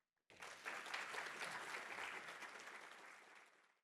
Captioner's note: applause